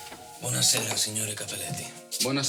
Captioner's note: fabrizio speaks in italian; speaks in italian